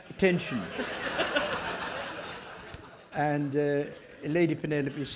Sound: audience laughing

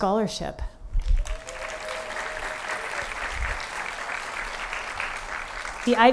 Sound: applause

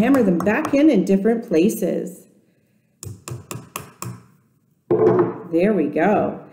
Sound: continuing to hammer golf tees in pumpkin with tapping sound

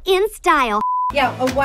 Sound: beep

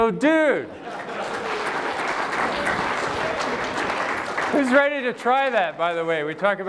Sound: applause

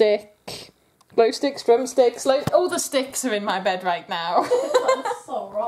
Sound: laughter

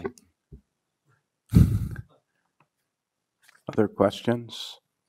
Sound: snickers

